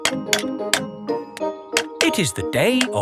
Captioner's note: clanking